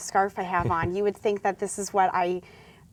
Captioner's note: laughs